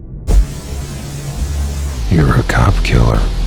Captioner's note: static hum